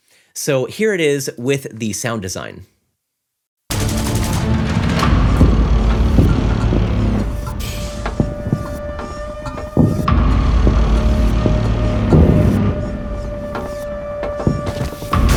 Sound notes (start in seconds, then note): 3.7 gunshots sounding; 3.9 suspenseful music playing